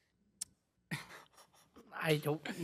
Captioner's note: laughs